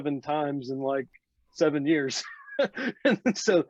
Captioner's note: laughs